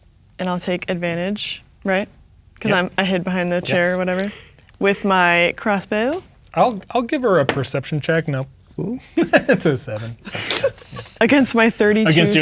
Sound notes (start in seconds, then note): 8.8 chuckles; 10.0 laughing